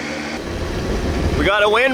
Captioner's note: wind rustling